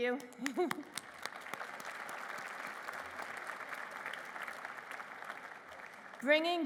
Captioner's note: applause